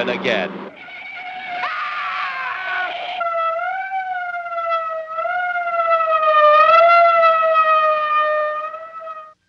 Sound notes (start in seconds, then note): 0.6 scream + tire noises; 3.0 ambulance siren